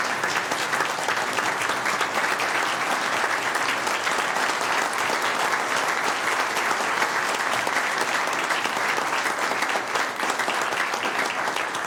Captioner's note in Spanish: Aplausos